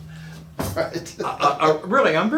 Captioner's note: laughing